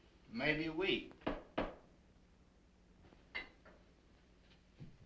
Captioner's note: door knocking